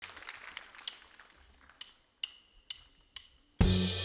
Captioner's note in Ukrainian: оплески